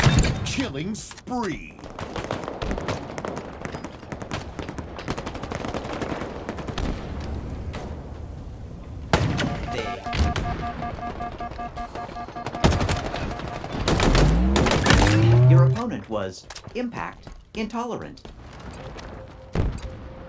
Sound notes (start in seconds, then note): 1.9 gunfire; 9.4 alarm triggering; 12.6 gunfire; 15.0 robotic Voice